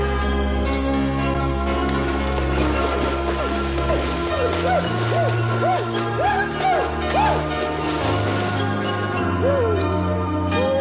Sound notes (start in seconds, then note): 4.5 screaming